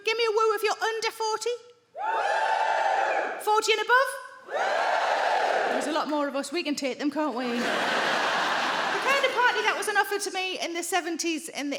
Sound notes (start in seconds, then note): 2.0 crowd members cheer